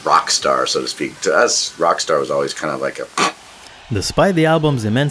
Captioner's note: scoffs